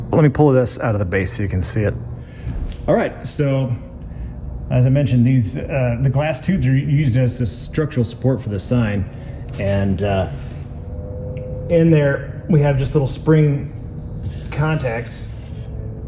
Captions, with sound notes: Let me pull this out of the base so you can see it. All right, so as I mentioned, the glass tubes are used as a structural support for the sign, and in there we have just little spring contacts, [electricity zapping]